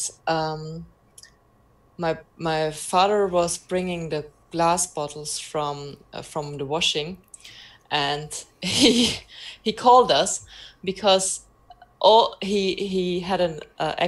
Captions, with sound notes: My father was bringing the glass bottles from the washing, and (laughs) he called us because he had an accident with his truck